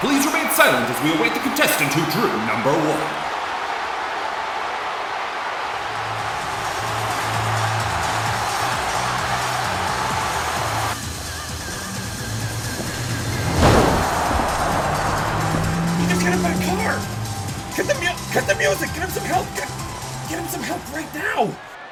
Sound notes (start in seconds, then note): 13.7 engine revs